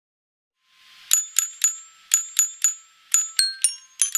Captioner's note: bell ringing